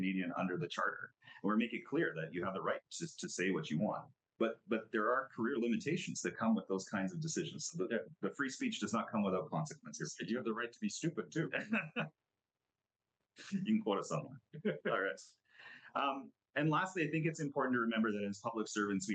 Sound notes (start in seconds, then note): 11.0 laughs